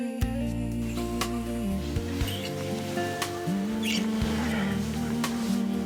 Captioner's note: kissing sounds and clothes rustling